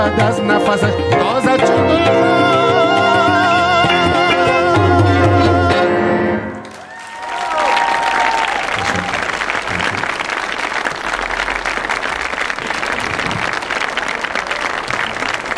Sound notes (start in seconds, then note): 6.9 audience applauding; 12.1 audience applauding